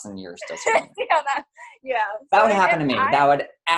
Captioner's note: laughs